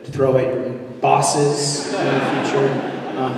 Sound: laughter

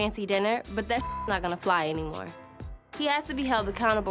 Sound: beep

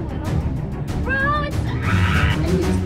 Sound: screams

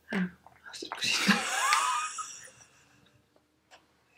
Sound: laughing

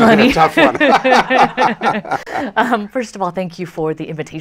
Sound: laughter

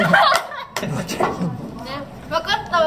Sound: laugh

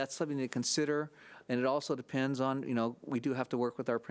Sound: none

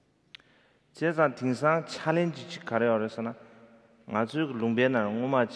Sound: speaking in foreign language

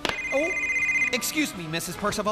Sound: cell Phone Ringing

